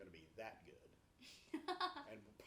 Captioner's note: laughs